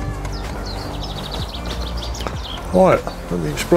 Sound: birds chirping

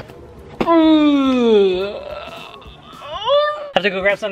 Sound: groaning

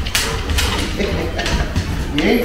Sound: laughs

